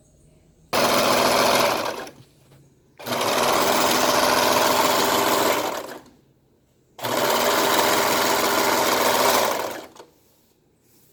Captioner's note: sews Piece Together on Sewing Machine